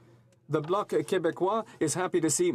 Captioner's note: speaking French